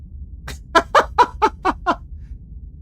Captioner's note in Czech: smích